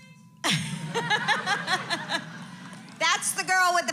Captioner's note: laughter